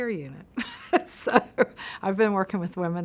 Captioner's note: laughs